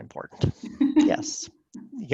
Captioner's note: giggles